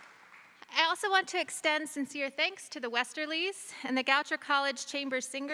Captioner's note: applause